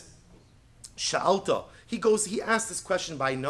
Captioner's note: Hebrew